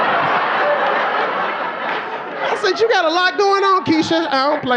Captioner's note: audience laughing